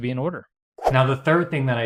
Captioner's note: whooshing